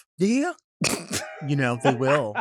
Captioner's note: laughs